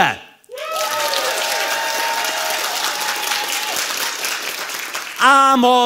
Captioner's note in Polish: oklaski publiczności